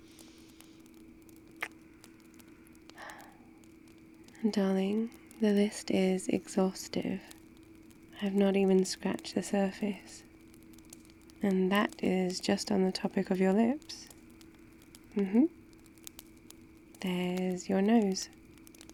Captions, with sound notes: *kiss* darling, the list is exhaustive I've not even scratched the surface and that is just on the topic of your lips mmhmm, there's your nose